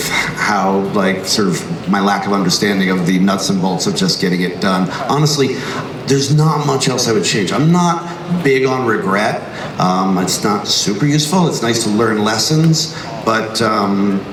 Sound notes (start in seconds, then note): none